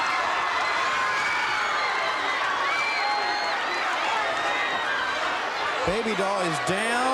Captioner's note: crowd cheering